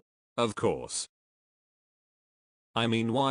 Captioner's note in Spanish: el-sótano silencio